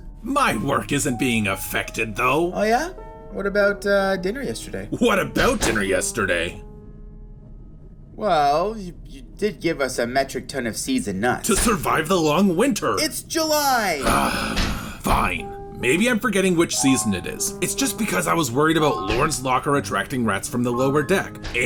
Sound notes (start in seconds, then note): 14.0 sigh